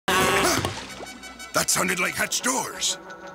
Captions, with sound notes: [gasping] That sounded like hatch doors!